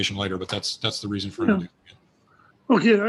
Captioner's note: faintly speaking